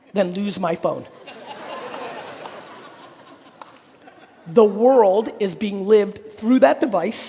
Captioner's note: audience laughing